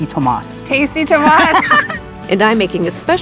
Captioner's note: both laugh